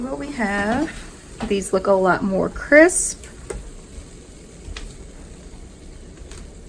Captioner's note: chicken sizzling